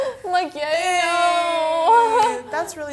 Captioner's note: both groan